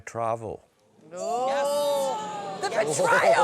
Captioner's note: exclamations